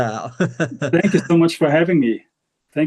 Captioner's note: laughing